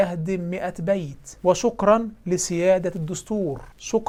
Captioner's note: egyptian sarcasm